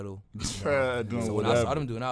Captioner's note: laughs